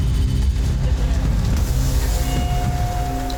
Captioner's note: tense music; sizzling